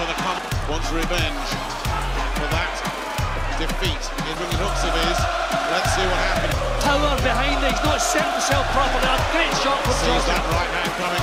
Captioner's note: crowd cheering